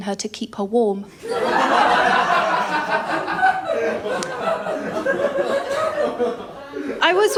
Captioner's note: laughter